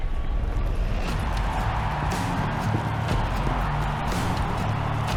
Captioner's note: crowd cheering